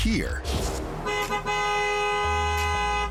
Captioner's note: car horns honking